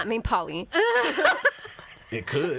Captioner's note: all laughing